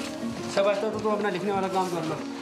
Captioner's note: foreign language spoken